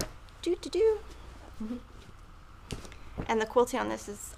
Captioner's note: hums